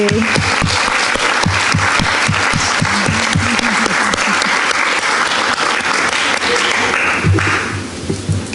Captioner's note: applause